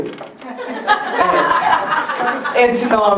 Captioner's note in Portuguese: Risadas